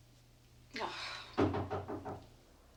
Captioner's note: groans softly; knock on door